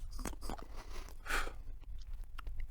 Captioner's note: pfff